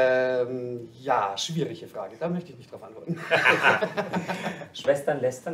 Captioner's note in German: lachen